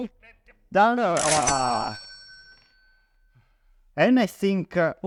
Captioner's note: groan